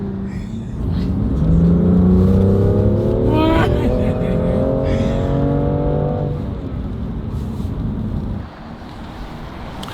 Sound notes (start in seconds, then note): 3.3 laughs